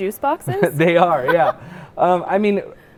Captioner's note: laughing